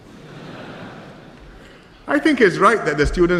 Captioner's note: laughter